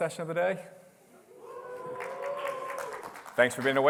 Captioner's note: applause